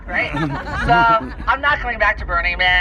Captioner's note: laughter